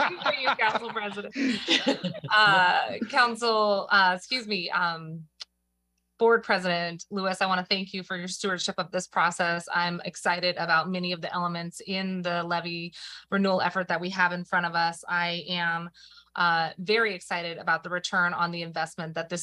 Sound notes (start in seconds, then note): 6.7 laughter